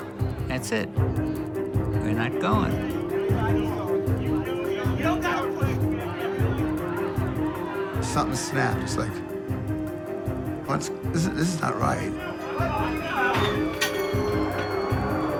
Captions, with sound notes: That's it-- "We're not going." (yelling) Something snapped. It's, like, "This-- this is not right." (yelling, object clattering)